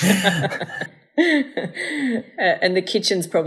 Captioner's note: laughing together